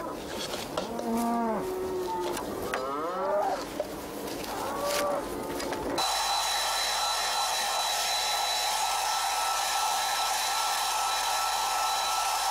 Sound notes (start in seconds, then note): 5.9 hair dryer running